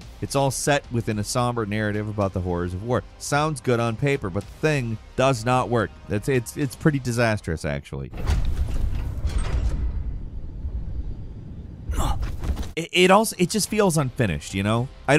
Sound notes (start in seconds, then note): 8.2 mecha clanging; 11.9 soldier grunting